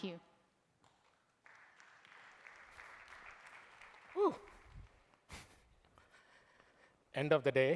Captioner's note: applause